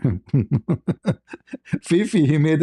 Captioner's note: ketawa